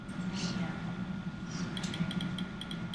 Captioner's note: typing